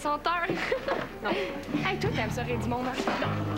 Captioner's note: Rire